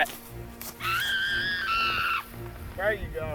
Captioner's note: Zelda screams